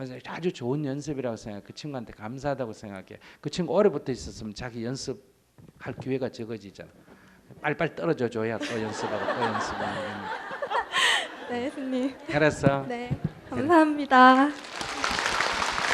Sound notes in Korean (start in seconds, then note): 8.6 청중 웃음; 14.5 청중 박수